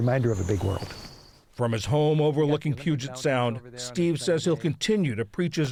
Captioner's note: voice-over